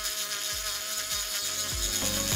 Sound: drill whirring

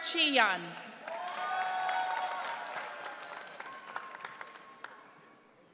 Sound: audience cheering

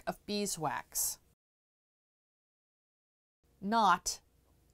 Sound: no Sound Present

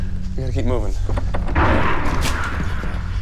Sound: distant roar

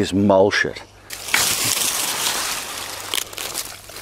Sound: foliage rustles; branches snap

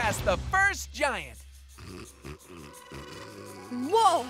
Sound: snoring

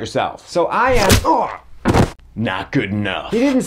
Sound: grunts

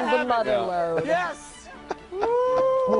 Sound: laughter

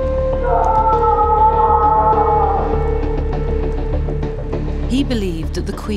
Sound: Henry screams in distance

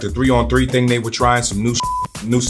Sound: beeps

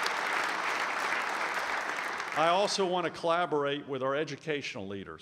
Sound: applause

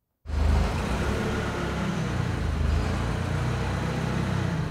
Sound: forklift engine whirring

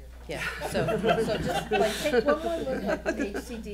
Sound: laughing

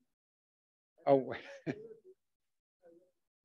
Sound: chuckles

